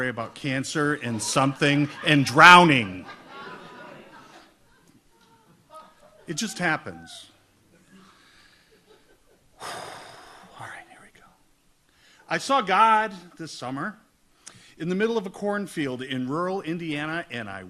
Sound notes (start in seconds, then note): 3.3 audience laughs; 9.6 sighs